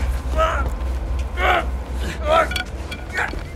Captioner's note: man grunting; bat clattering; man grunting